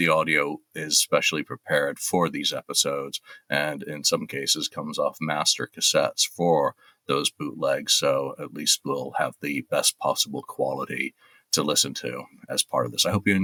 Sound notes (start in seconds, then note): none